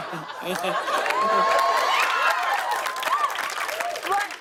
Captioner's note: cheers and applause